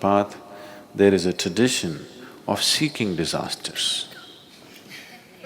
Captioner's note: laughter